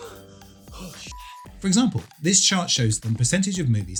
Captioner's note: panting